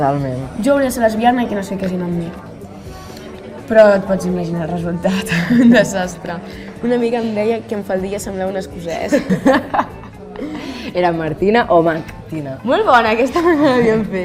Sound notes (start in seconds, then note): 9.1 laughs; 11.7 they laugh